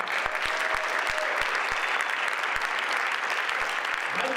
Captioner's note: audience applauds